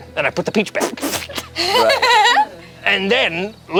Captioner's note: everyone laughs